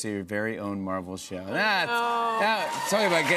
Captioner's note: cheers and applause